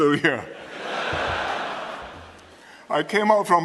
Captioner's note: laughter